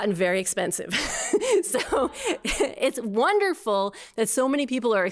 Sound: laughter

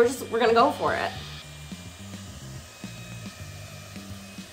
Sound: fan blowing

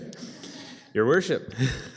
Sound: chuckling; woman laughing; chuckling

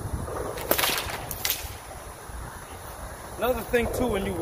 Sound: whip cracks

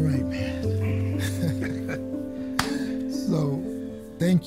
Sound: laughing

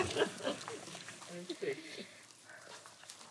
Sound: laughs

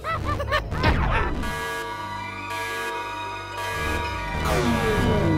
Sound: laughter; alarm

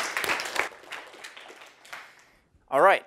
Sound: applause

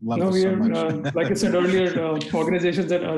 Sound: laughs

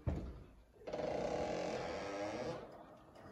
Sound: door creaks

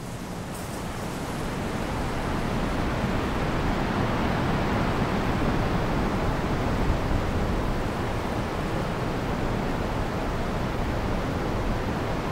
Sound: waves crashing

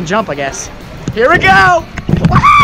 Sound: exclaims

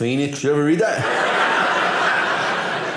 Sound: audience laughing

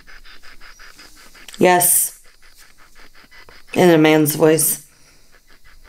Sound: in a man's voice

